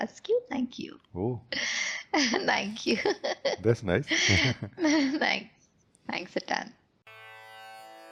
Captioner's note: laughing